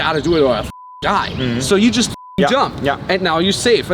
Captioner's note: beep